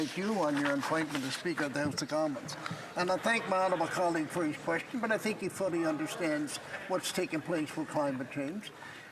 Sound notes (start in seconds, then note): 1.2 speaking french